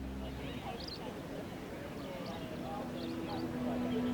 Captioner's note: birds chirping